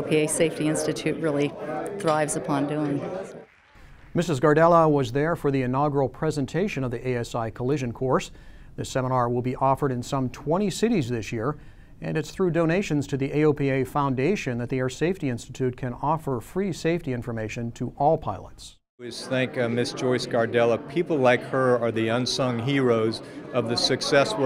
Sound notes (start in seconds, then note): 3.4 clapping